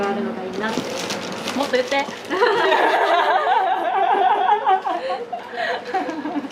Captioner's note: laughs